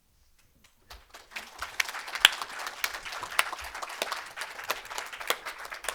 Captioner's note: audience applauding